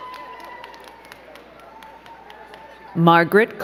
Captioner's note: crowd cheering